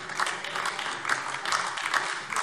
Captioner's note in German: Beifall AfD